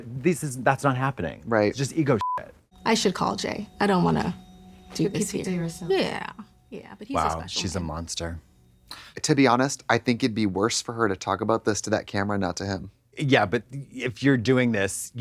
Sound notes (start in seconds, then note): 2.2 beep